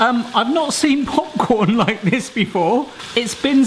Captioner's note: laughing